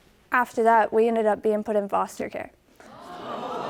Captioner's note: audience gasps